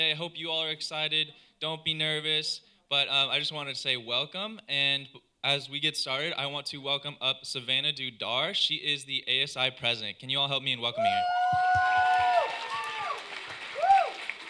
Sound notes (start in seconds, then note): 11.0 cheering